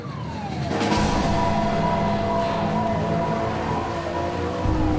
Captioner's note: siren wailing; engine droning; water whooshing